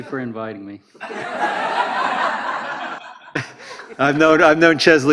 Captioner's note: crowd laughter